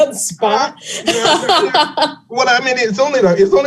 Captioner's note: laughing lightly